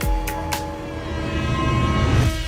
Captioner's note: airhorns blaring